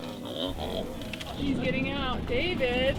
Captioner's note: animals snorting